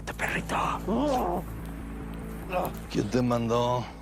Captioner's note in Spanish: Quejidos